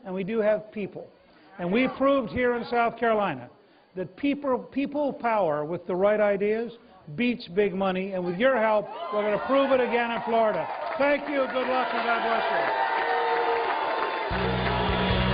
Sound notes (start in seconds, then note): 6.2 cheers and applause